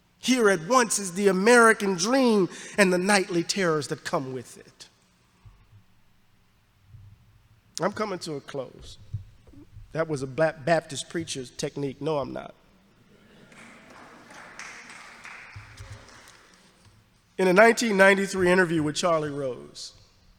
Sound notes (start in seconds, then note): 13.1 audience laughs and applauds